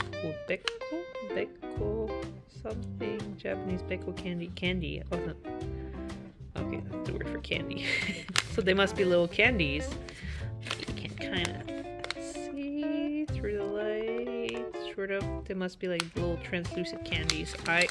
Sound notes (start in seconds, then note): 7.8 laugh